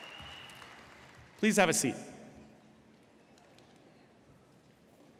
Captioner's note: applause